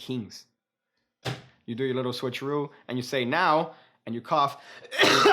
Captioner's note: coughed